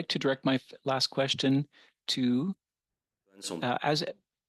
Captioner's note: speaking French